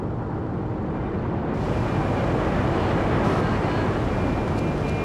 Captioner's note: tires screeching